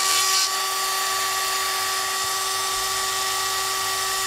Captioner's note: continued whirring